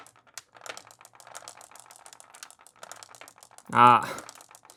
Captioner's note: marbles rolling